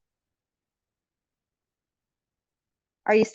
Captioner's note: no audible dialogue